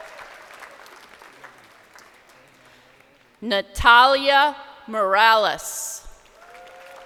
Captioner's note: crowd applauding; person in audience shouting